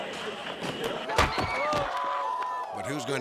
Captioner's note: thudding